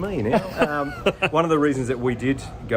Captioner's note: laughing